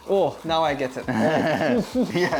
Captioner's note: laughs